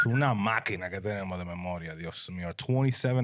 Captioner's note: speaking Spanish